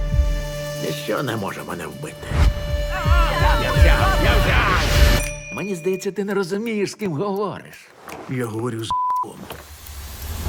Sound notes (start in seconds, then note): 2.9 all screaming